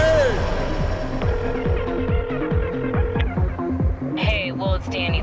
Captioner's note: line trilling